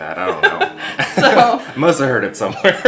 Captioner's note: laughs